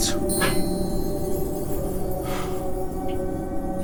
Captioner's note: magical tinkling